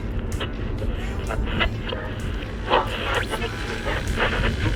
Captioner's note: music on radio; radio static